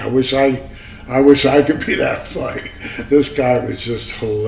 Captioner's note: laughs